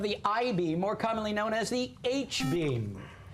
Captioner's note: buzzer